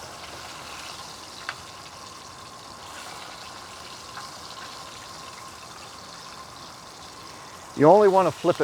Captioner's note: sizzling